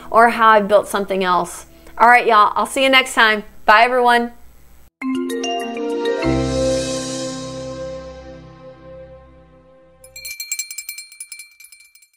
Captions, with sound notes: or how I've built something else. All right, y'all, I'll see you next time. Bye, everyone. (bright music) (bell chiming)